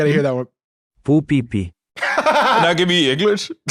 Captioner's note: laughs